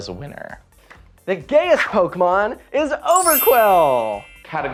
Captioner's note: chime noise; heavy reverb